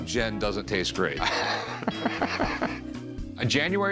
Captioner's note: laughs